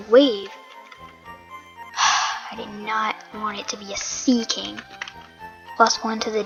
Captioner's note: sigh